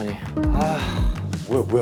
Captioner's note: sigh